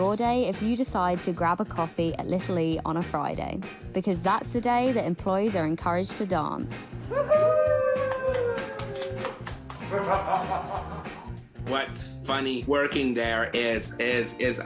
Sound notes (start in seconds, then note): 8.0 applause; 9.8 laughing